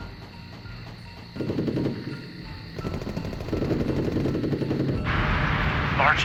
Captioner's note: guns firing distantly